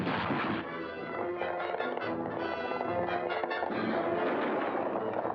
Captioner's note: loud thump & bang; hooves pounding; dramatic music; gunshots